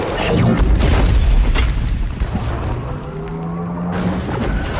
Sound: crashes loudly

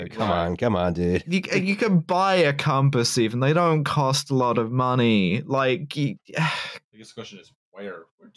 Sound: sighs

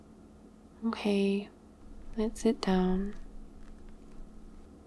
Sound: footsteps

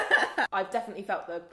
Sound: laughs

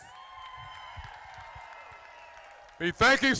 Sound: crowd applauding

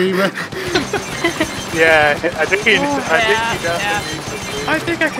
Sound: hyperventilation laughing; chuckles

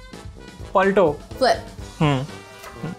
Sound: speaking in Hindi

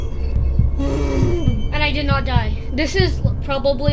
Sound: exhales; gasps loudly

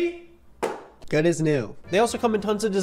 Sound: phone thumps

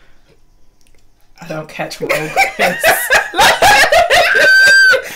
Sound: laughter

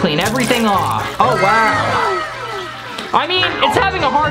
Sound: wow sound effect

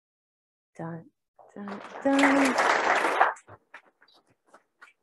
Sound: clapping

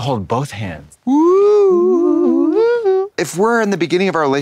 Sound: blonde Women woo

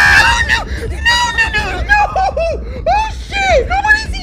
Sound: wimpering

